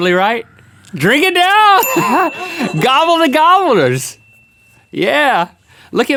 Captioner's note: ding